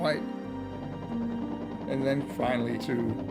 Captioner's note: helicopter rotors whirring